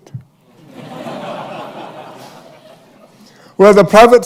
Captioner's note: laughter